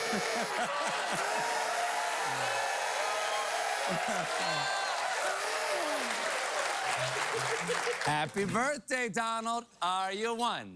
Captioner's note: noisemaker squeaks; cheers and applause